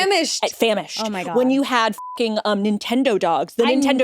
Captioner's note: beep